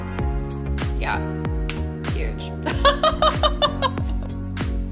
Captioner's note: laughs